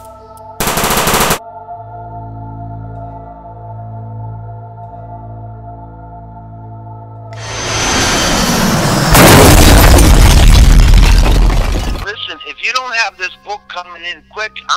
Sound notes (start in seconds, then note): 0.6 machine gun fire; 7.4 plane crash explosion